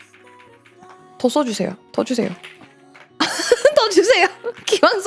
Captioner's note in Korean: 웃음